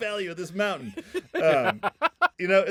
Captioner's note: laughing